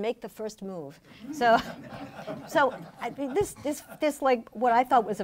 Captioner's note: laughing